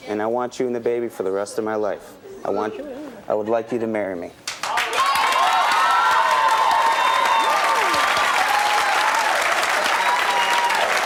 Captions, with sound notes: and I want you and the baby for the rest of my life. I would like you to marry me. (audience cheering) (audience applause)